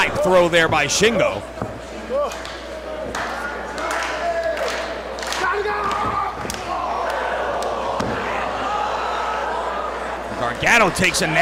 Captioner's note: applause